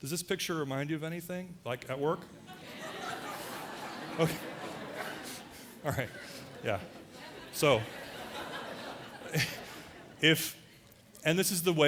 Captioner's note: audience laughter